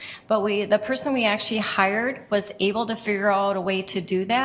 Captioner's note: none